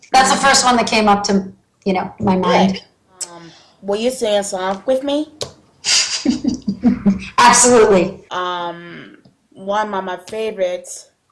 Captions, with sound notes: That's first one that camp up to you know my mind Will you sing a song with me? *laughs* Absolutely One of my favorites